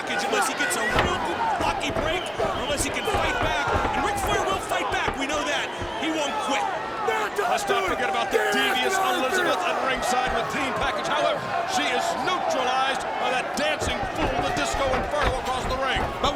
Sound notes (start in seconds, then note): 7.0 Harris Brother yelling